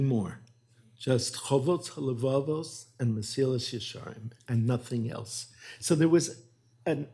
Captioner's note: hebrew